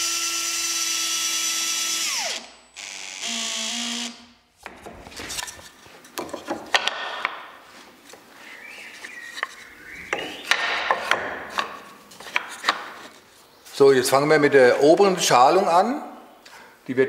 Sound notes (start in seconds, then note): 8.2 birds chirping